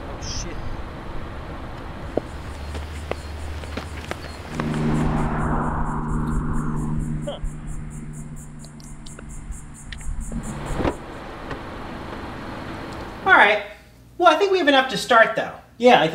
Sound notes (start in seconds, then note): 2.6 footsteps crunching; 4.6 cars engines roaring; 8.7 footsteps crunching; 10.9 car seat moving